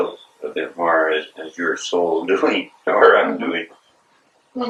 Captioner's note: laughs